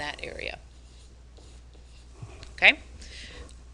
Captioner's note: pen scratching